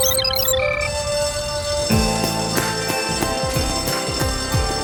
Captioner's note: bell ringing